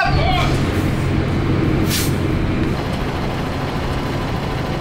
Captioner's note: bus engine roaring